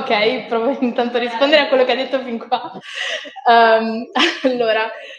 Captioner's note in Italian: Risate